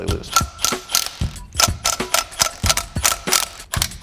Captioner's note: bolts cracking